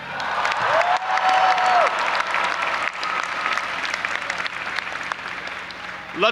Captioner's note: audience applauding and cheering